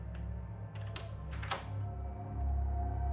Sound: door closes

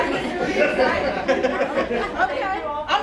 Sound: chuckles

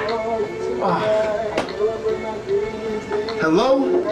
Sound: exhales heavily

